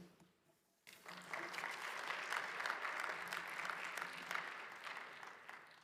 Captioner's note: audience applauds